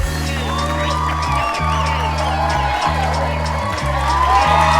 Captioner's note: audience cheering